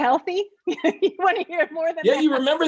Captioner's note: chuckles